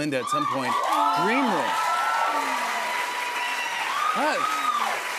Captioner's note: cheers and applause